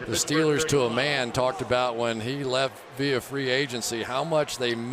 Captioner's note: crowd cheering